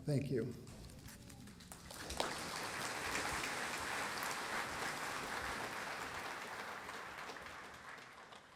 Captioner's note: applause